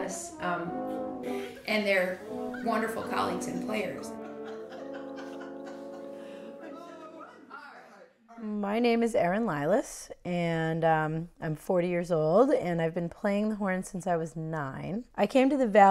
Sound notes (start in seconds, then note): 4.0 laughing